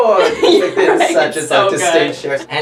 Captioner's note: laughs